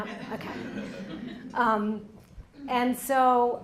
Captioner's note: laughter